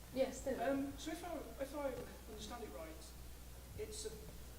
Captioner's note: voiceover